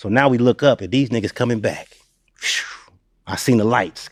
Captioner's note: blows